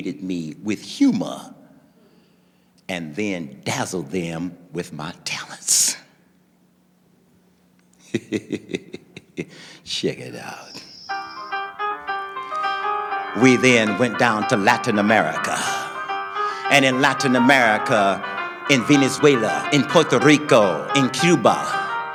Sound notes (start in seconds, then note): 8.0 laughing; 10.7 instrumental music